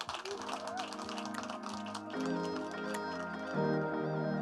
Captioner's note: applause